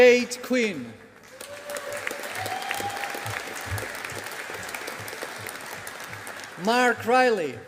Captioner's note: audience applauding